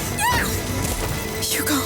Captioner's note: amicia screams